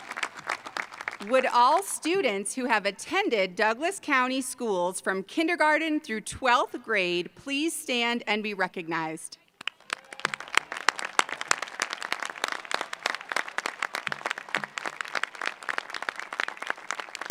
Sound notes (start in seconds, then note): 6.3 applause